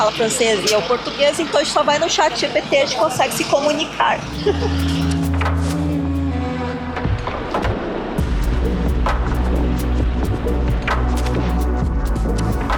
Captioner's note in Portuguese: risadas